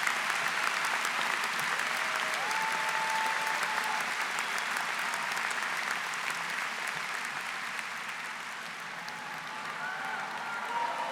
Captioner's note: cheering; applause